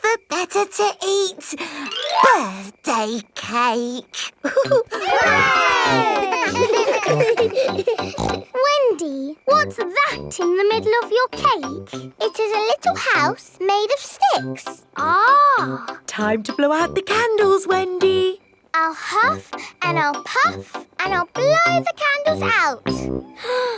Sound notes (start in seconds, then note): 4.4 chuckles; 4.4 laughing; 7.1 snorts